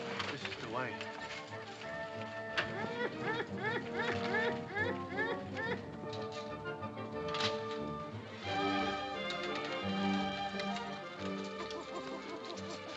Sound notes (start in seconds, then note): 0.0 dramatic music; 2.4 dramatic music; 2.6 monkey noises; 5.9 dramatic music